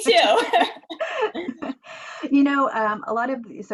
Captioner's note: both laughing